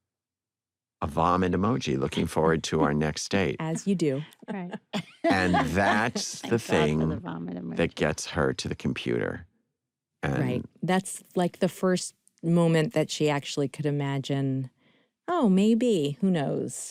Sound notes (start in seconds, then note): 3.7 laughs